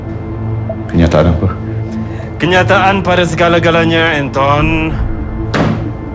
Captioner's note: speaking in foreign language